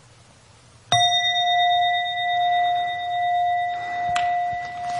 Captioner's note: bell chiming